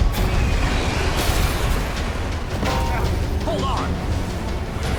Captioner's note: guns firing; hammer thudding; dramatic music